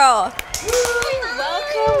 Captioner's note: crew cheers